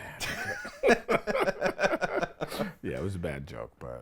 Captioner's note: both laugh